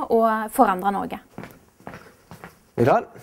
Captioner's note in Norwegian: Lyd av fottrinn